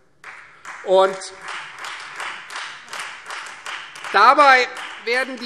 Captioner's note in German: Beifall Freie Demokraten